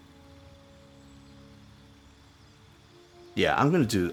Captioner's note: silence